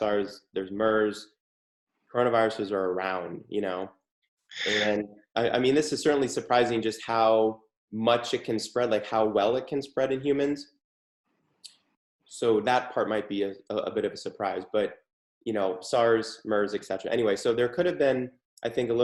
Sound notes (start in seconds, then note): 4.6 chuckles